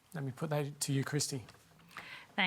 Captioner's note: none